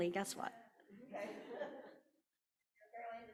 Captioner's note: people laughing